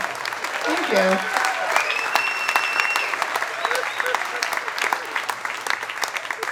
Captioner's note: audience applauding and cheering